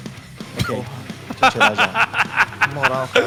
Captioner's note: laugh